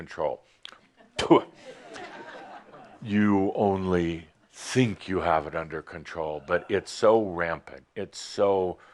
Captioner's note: some chuckles